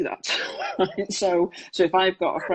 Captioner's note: laughs